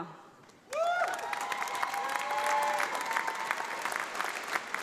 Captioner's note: audience applauding